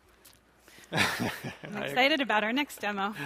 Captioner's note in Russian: смеётся